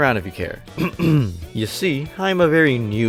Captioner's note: ahem